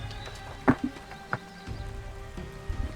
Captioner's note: dice rolling sounds